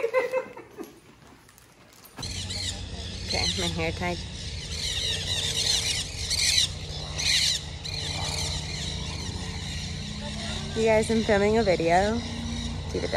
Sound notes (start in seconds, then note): 0.0 laughter; 5.3 birds loudly chirping